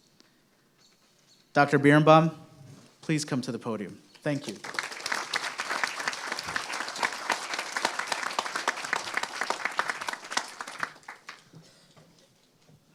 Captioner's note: applause